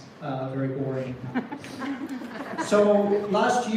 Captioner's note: scattered laughter